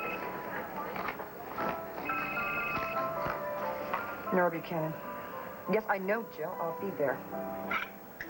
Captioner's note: telephone rings